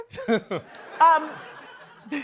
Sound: chuckling

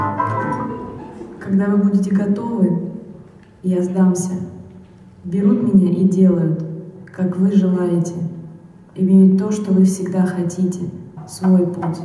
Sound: speaking in Russian

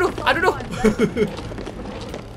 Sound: laugh

